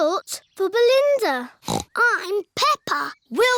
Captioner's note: snorts